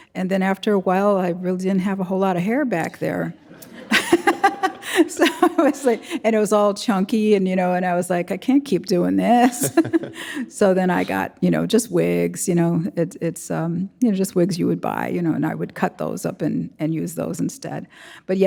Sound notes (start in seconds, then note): 3.3 audience laughing; 3.3 laughing; 9.3 chuckles